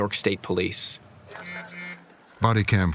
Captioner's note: phone vibrates